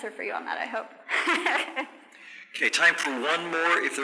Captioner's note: laughs